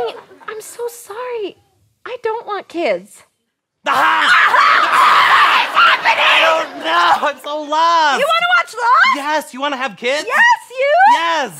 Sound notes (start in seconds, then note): 3.8 screaming